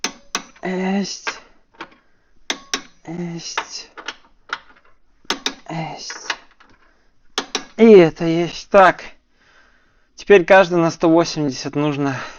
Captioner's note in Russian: вздыхает; тяжело вздыхает